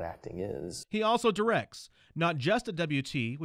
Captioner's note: voiceover